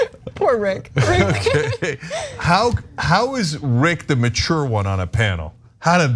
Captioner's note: laugh